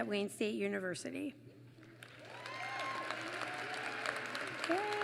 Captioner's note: applause